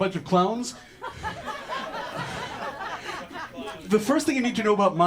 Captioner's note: audience laughter